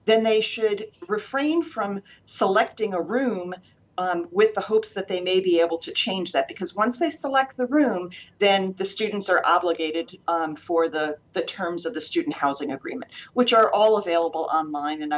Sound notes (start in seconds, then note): none